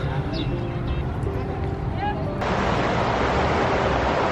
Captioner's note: water flowing